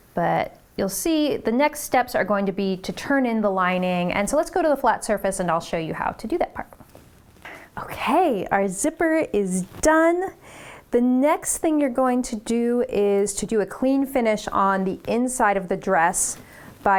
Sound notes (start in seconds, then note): none